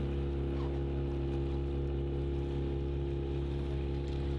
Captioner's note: outboard engine noise